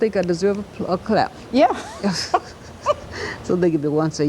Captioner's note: laughter